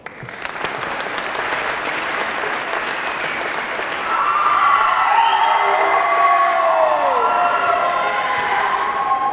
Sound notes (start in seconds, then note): 0.0 audience clapping; 0.3 audience cheering; 4.3 audience clamoring